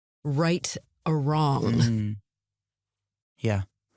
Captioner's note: all agreeing